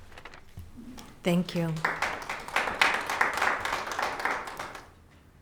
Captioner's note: audience applauding